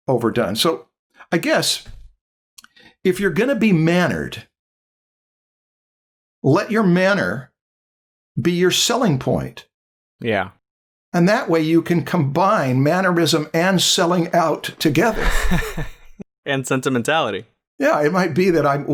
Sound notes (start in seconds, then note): 15.0 laughter